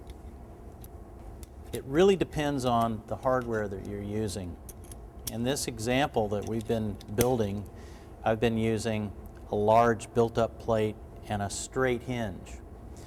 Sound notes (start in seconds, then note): none